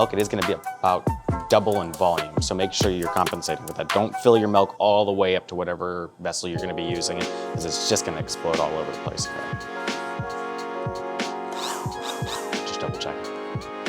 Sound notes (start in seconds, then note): 9.7 gentle music; 11.8 blender buzzes